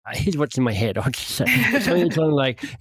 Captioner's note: laughs